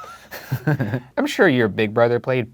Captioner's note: both laughing